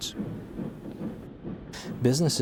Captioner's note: train wheels clicking